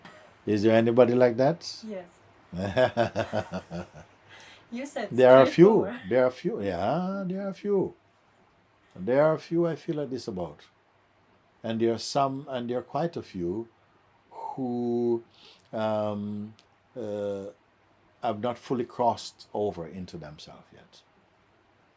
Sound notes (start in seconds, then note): 2.5 laughs